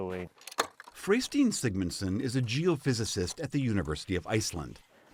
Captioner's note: voice-over